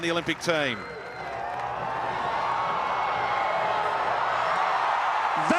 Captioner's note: crowd cheering